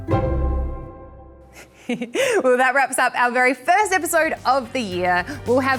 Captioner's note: chuckles